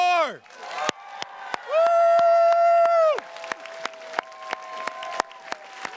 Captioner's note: attendees cheers and claps